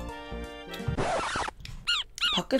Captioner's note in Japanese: 鳥が鳴く声